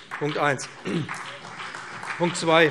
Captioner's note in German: Beifall